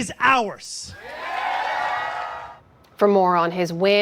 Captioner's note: cheering